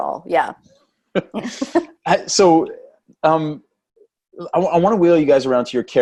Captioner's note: laugh